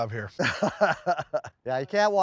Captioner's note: laughs